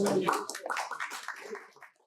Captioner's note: applause